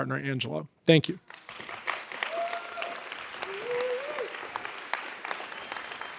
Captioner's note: audience applauds and cheers